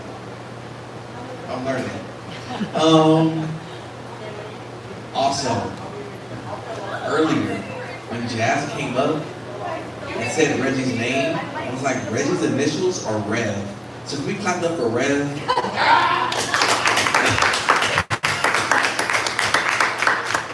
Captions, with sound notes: I’m learning. And also, earlier when Jaz came up, and said Reggie’s name, Reggie’s initials are R.E.D., so can we give it up for RED? [Applause]